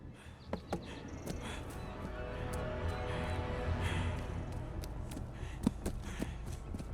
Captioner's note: footsteps tapping; Peter panting